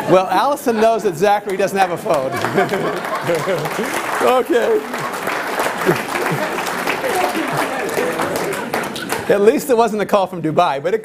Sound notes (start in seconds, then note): 1.8 applause